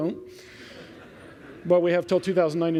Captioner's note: laughter